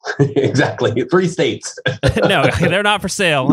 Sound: laughs

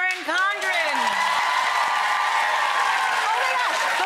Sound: applause

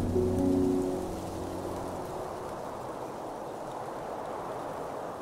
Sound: wind blowing

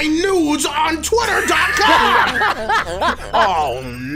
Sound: wheeeeeezee

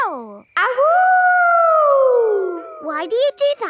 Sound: howling

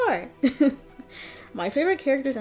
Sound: chuckles

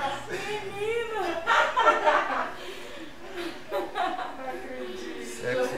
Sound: laughter; laughs

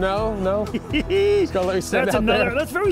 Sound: laughs

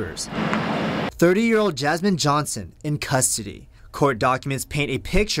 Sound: cars driving by apartment

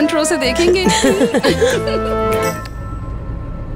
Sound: all laughing

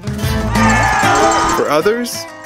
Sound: audience cheering

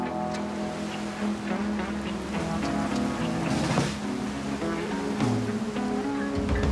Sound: waves crashing in distance

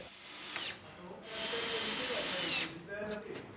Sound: drilling

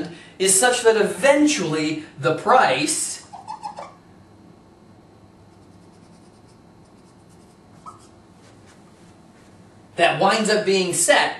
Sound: pause

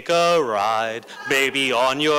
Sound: laughter

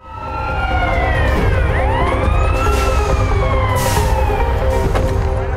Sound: sirens wailing

